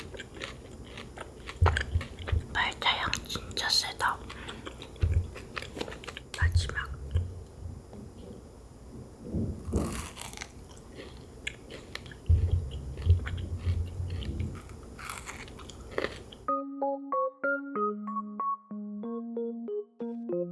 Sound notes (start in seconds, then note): 2.3 whisper